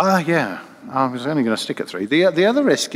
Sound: voiceover

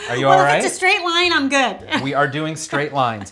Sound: laughs

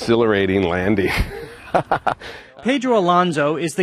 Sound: laughs

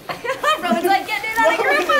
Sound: laughing

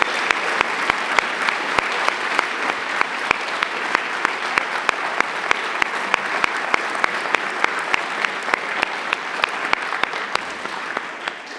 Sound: applause

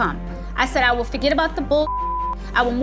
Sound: beep

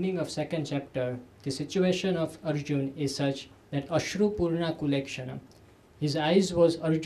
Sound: sanskrit

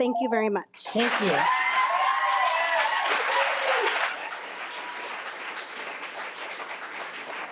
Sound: audience applauding

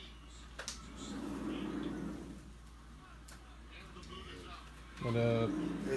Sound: television announcer calling plays

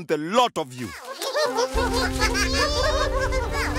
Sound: chuckling

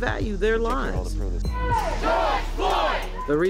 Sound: crowd

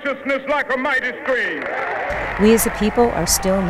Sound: cheering and applauding

